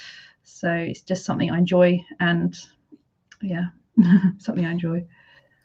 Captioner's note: giggles